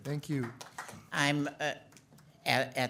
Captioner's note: audience applauds